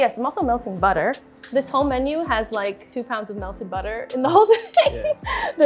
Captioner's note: laughs